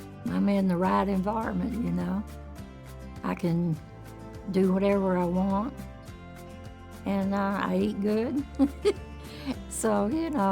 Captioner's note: laugh